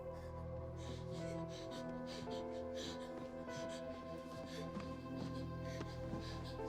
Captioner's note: gasping; Izzie panting